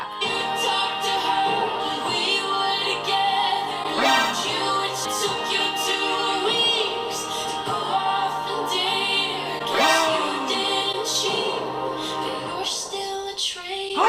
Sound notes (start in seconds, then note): 3.6 gasps; 9.5 gasps